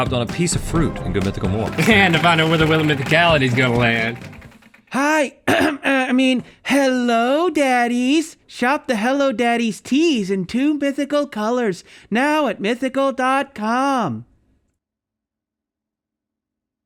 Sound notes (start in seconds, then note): 5.4 clearing throat